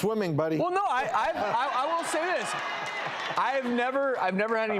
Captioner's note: audience laughs